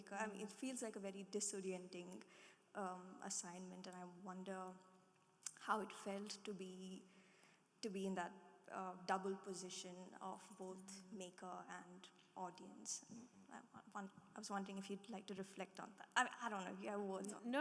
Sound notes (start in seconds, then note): none